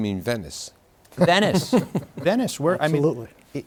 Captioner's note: laughs